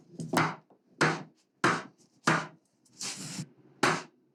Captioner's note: hammering